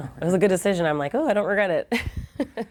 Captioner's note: laughter